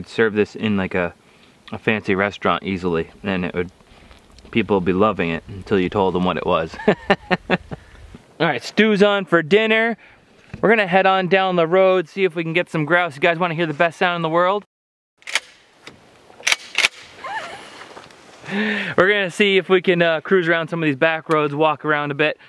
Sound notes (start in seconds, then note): 6.7 laughs; 14.8 slingshot clicking